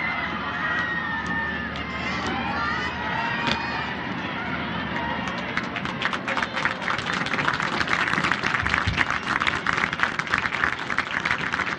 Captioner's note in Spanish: aplausos